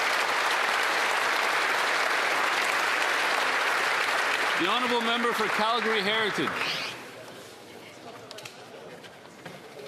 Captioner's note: some Applause